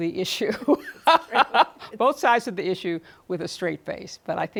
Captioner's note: laughs